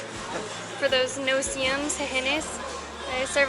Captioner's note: speaking Spanish